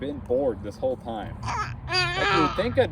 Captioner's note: baby babbling